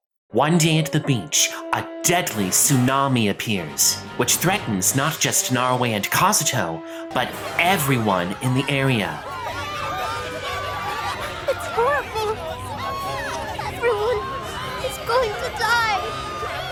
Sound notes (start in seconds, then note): 9.5 crowd screaming; 16.5 screaming continues